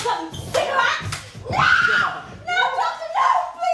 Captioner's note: Missy screams